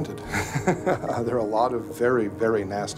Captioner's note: laughs